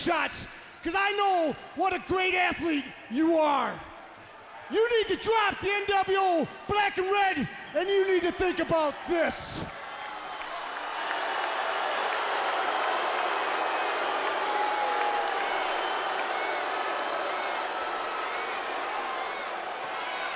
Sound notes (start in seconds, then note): 10.1 audience cheering and clapping